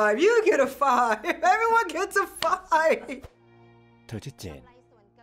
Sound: laughs

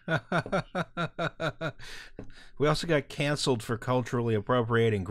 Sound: laughter

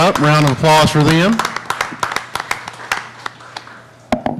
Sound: applauding

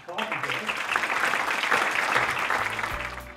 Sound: applause

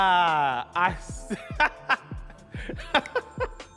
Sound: laughs

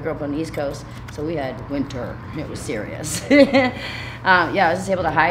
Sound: laughing

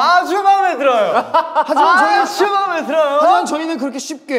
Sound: boisterous laughter

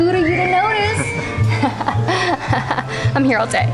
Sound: both chuckles sarcastically

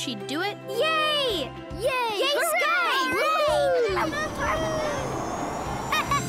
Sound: cheering; laughing

